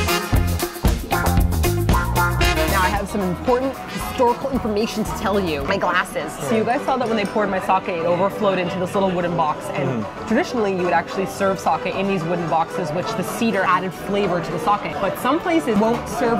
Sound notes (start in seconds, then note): 5.6 nasally